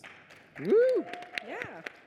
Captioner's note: applause; cheers